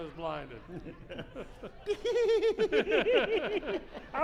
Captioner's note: laughing